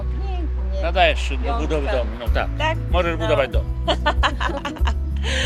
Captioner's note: speaks foreign language; grandma speaks foreign language; grandpa speaks foreign language; laughs